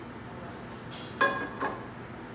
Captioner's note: pan clanks against burner